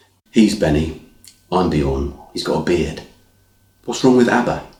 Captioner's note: none